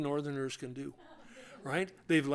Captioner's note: laughter